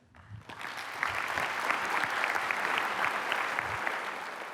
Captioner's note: applause